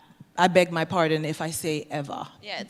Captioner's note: german pronuntiation